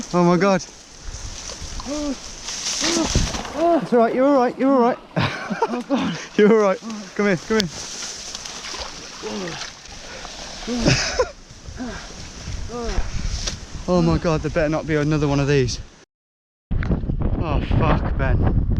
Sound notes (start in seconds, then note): 1.7 yelling; 10.6 laughing; 11.7 groaning